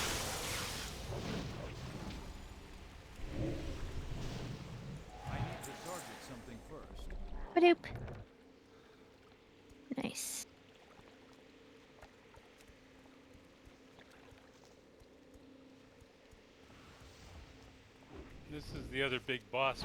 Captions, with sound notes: Boop. Nice. [WATER SOUNDS] This is the other big boss